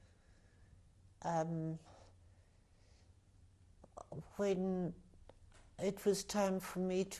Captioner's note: pauses for 3 seconds